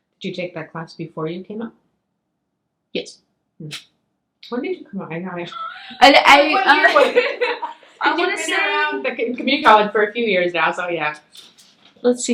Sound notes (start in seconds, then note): 5.5 laughs